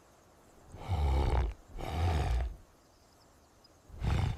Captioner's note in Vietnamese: khịt mũi